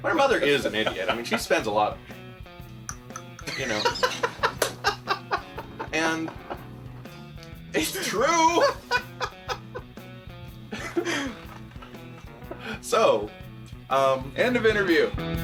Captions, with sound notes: Her mother is an idiot. I mean, she spends a lot... [ drinking sound ] You know? [ Laughs ] And... It's true! [ Laughs ] - So, um... - End of interview.